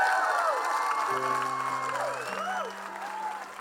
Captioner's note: crowd clapping and cheering; bright piano music